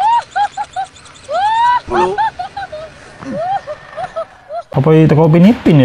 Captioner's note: laughs